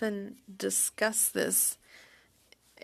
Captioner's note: speaking French